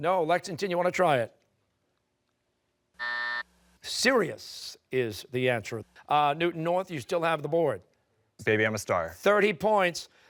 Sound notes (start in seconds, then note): 2.1 timer